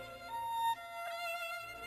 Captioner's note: speaking French